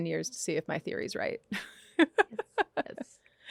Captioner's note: laughs